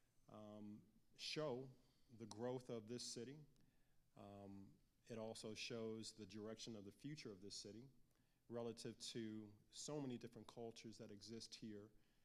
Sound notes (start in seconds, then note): none